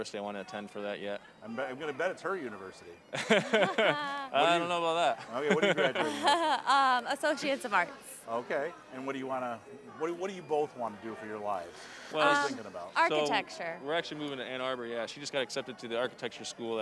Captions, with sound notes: I want to attend for that yet. >> I'm gonna bet it's her university. (both laughing) >> I don't know about that. >> Okay, and what are you graduating with? >> Associate's of Arts. >> Okay. And what do you wanna-- what do you both want to do for your lives? >> Architecture. >> We're actually moving to Ann Arbor. Yeah, she just got accepted to the Architecture school